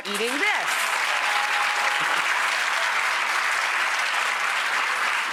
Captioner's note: audience applauding